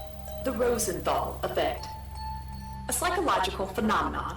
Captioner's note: none